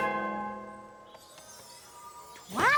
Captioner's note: tinkling